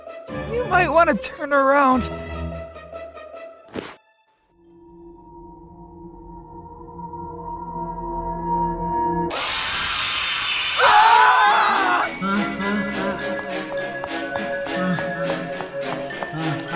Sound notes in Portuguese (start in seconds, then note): 9.1 Grito de Animatrônico; 10.7 gritos e fogem